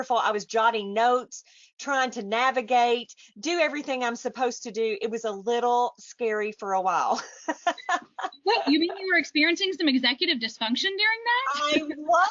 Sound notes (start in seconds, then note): 7.4 laughs